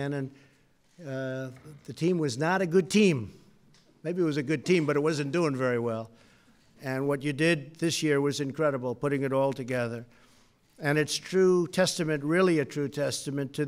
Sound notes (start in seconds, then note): none